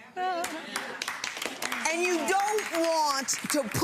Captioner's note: audience applauds